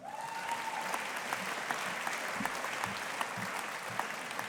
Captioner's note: audience applauding